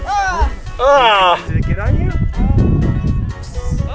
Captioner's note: groans in disgust; kids yell